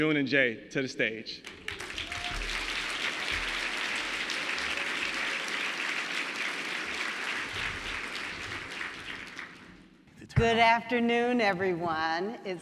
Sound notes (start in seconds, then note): 1.4 audience clapping